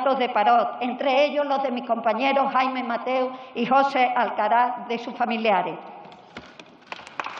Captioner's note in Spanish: Aplausos